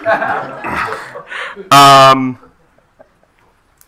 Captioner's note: attendees laughing